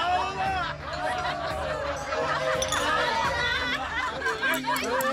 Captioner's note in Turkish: Kahkaha atıyorlar